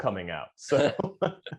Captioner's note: laughter